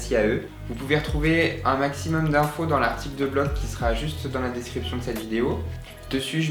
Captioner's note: in french